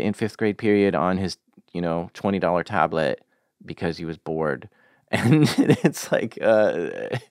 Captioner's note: laughs